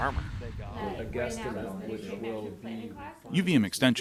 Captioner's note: muffled chatter